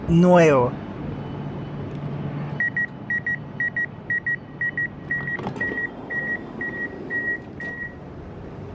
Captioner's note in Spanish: sonido de apertura de puertas